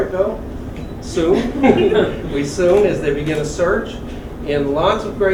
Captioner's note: laugh